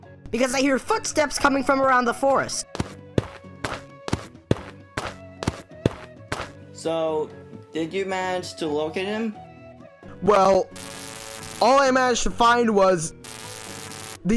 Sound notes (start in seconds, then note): 2.7 footsteps are heard